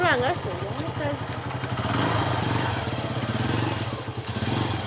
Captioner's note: Vrombissement d’une moto